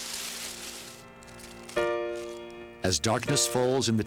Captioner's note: leaves rustling; solemn piano music